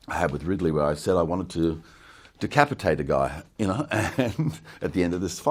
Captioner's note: chuckles